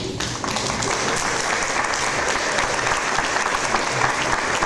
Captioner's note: audience applause